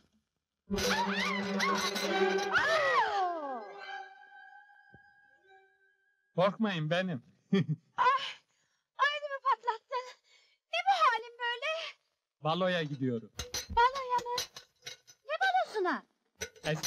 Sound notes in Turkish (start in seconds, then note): 0.8 çiğlik sesleri̇